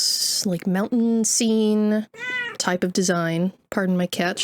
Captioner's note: cat screeching